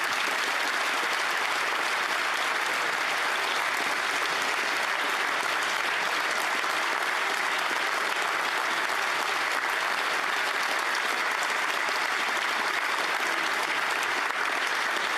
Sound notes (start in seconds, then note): 1.8 applause